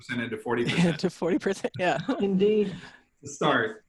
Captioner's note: laughs